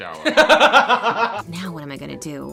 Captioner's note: laughs